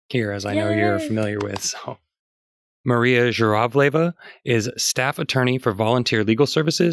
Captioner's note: clapping